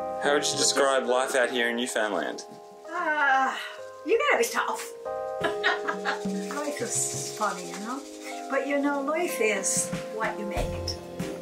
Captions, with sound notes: How would you describe life out here in Newfoundland? You've got to be tough. (laughter) Life is funny, you know, but life is what you make it.